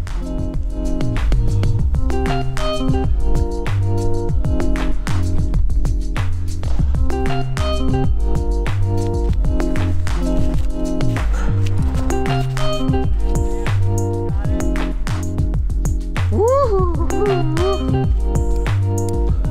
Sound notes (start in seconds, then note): 1.4 mellow music; 16.3 whoops